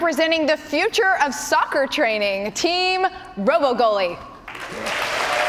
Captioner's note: cheers and applause